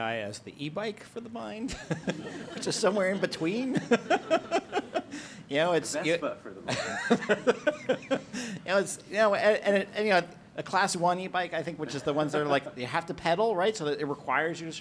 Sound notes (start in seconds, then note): 4.7 laughter